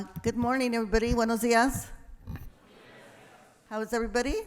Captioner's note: speaking in foreign language